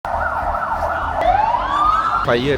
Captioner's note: emergency sirens